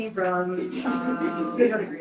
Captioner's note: group laughs